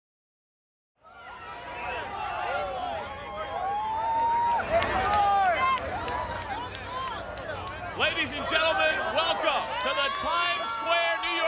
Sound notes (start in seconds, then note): 1.2 audience cheers